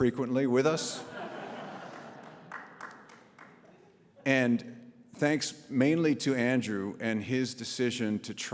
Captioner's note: audience laughs